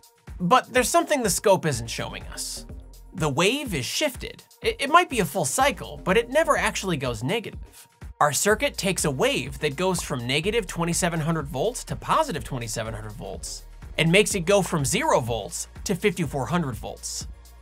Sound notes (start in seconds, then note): none